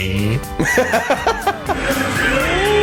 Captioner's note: laughs